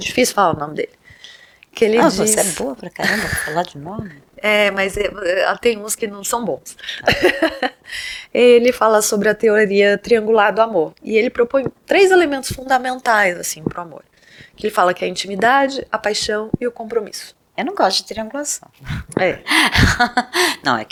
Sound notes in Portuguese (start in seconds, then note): 6.9 risos